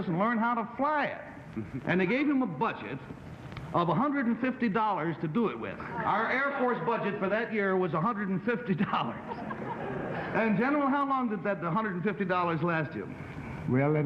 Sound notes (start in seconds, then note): 5.6 panelists murmuring; 8.8 laughing